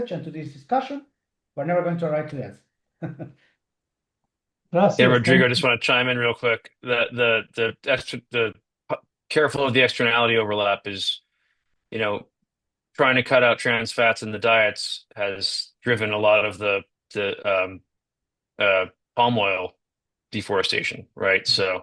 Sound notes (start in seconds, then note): 3.0 chuckles